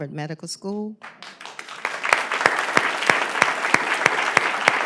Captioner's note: applause